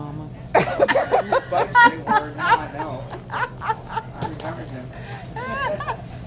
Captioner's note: both laughing